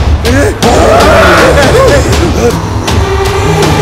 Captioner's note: Grunts